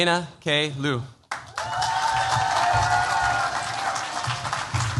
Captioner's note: cheers, applause